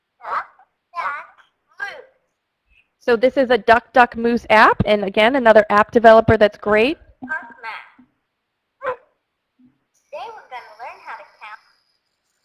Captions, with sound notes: - [Voiceover] Duck, duck, moose. - [Voiceover] So this is a Duck, Duck Moose app, and again another app developer that's great. - [Voiceover] Park Math. (dog barking) Today we're going to learn how to count--